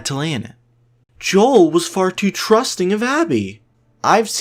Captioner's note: mocking voice